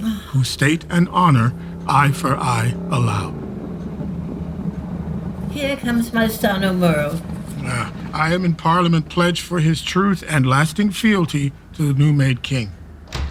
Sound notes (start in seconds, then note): 3.5 motorcycle approaching; 13.0 door opening